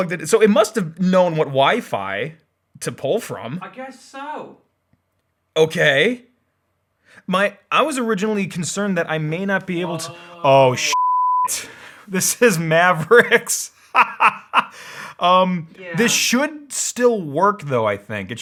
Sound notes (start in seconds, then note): 10.8 beep; 13.8 laughs